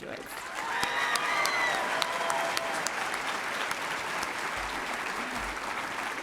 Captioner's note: audience cheering and applauding